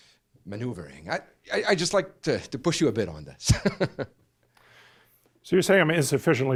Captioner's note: laughs